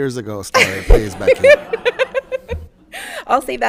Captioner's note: all laughing